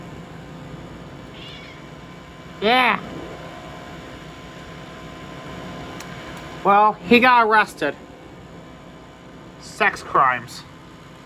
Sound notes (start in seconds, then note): 1.3 meows